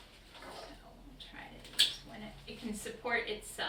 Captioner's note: quiet Voice